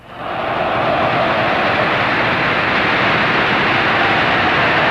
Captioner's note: audience applauding